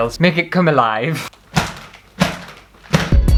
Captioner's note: tap, tap, tap!